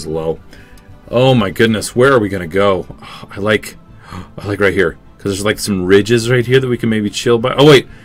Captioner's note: gasp